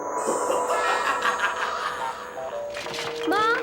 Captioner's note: cackles